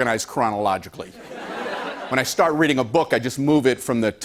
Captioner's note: laughter